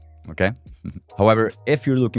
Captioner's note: chuckles